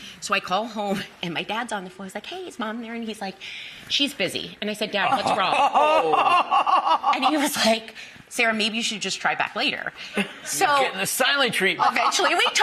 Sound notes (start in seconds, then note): 5.1 hosts laughing